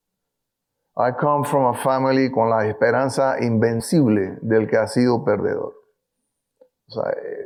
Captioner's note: speaking in foreign language